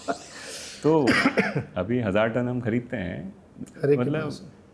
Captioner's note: nasal voice